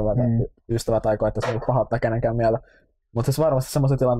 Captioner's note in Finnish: none